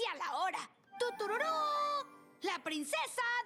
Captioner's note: imitates trumpet fanfare